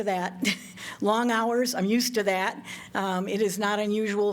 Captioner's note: laughter